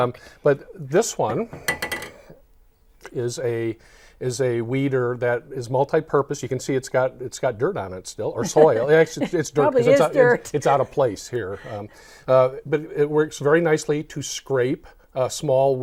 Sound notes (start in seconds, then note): 10.0 laughing